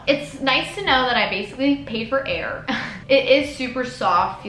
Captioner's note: giggles